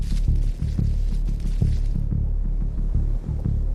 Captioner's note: zapping